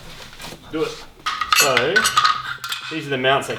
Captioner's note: metallic clattering